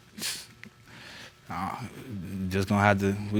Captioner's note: scoffs